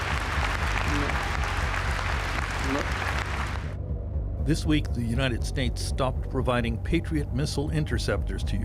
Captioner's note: applause